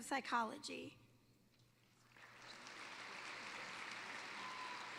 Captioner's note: applause